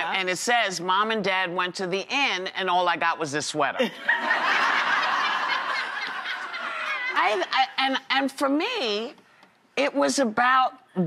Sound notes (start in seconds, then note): 3.8 audience laughs